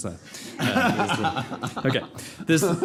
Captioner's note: panel laughs